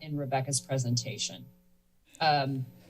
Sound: pause

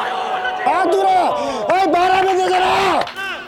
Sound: screams

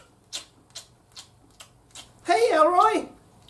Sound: Elroy crunching on Snackaroonies

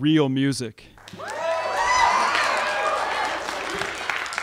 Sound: crowd cheering

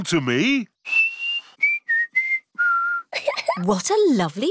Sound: whistles a tune; giggles

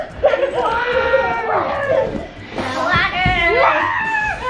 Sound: children laugh and shout

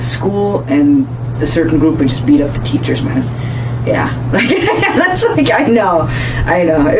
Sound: laughing

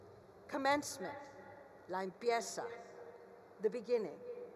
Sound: speaks foreign language

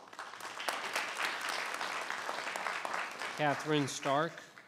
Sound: audience applauding

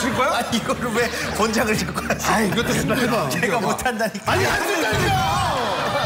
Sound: laugh

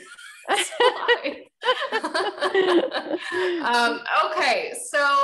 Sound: both laughing

